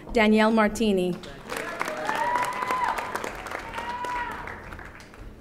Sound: audience applauding

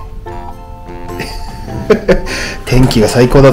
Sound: laughs

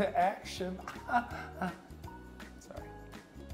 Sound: chuckles

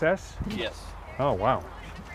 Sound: voiceover

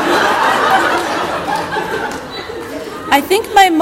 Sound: audience laughter

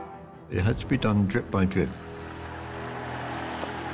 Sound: cheering

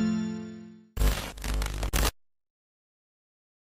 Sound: glitch noise

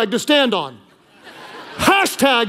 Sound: congregation laughing

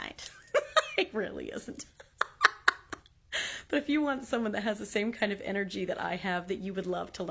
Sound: laugh

